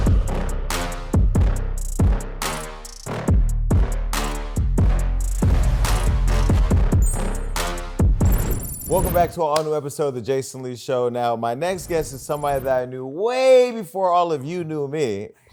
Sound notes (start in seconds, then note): 0.2 upbeat music; 6.4 dinging